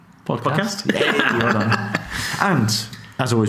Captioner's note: laughs